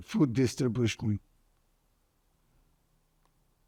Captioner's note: pauses 8 seconds